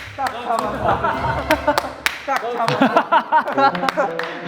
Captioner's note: everybody is bursting into laughter